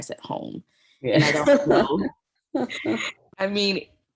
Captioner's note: laughter